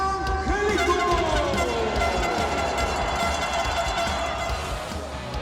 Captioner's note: horns honking